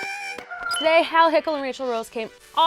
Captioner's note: click